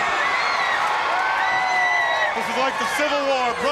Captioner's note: crowd cheering